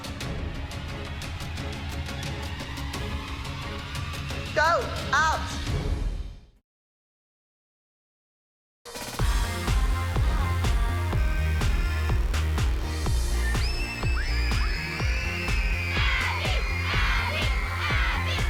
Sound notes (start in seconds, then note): 13.5 screaming